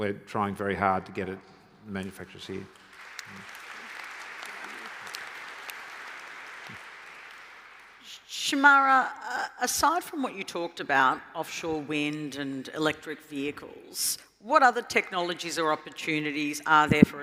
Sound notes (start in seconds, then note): 2.2 applause